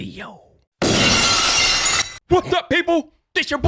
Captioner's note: glass shattering